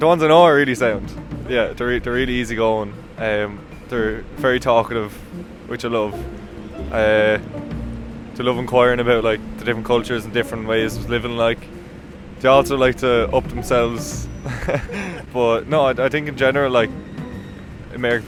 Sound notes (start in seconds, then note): 14.4 laughs